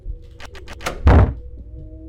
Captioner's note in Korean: 쿵!